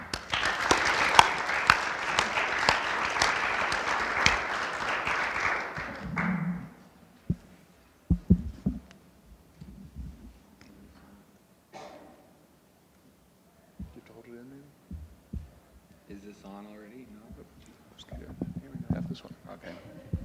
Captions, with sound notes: (audience applauding) (panel applauding) - Do you have to hold it in there? - Is this on already, no? - Here have this one. - Okay.